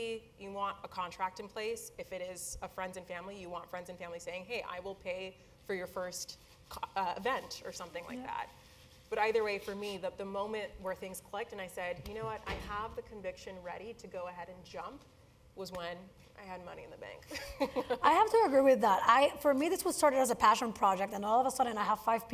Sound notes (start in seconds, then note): 17.8 laugh